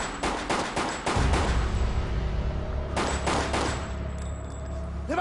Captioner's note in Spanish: Disparos